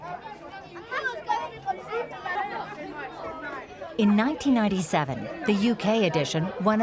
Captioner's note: people chattering